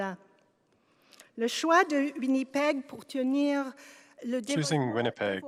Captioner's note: speaking French